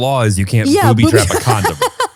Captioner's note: laughs